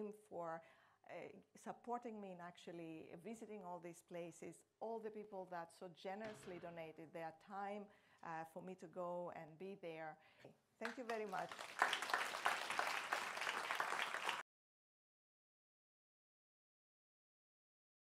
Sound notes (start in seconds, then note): 10.8 audience applauding